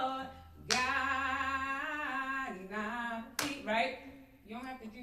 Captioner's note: claps